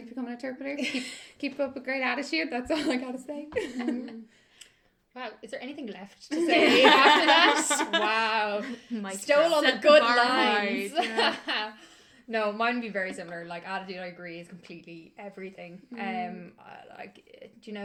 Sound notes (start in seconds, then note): 6.4 laughter; 12.0 laughs